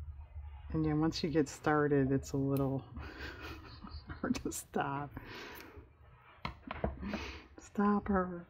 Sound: laughs

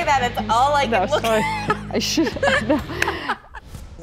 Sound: chuckles

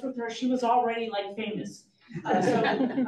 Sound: audience laughs

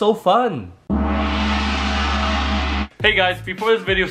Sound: gong sound

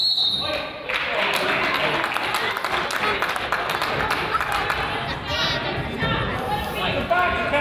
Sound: whistle blows; crowd applauds; coach yells

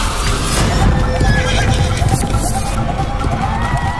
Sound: horses neighing and galloping

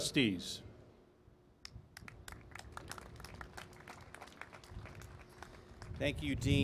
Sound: applause

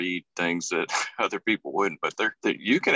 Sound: laughs

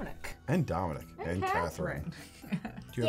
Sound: laughing

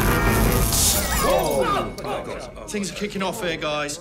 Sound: glass shatters; crowd

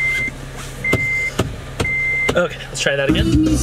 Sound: beeping

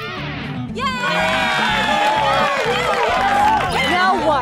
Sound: cheering

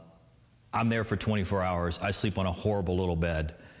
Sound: none

